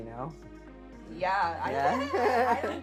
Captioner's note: laughing